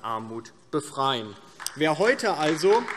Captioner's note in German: Beifall DIE LINKE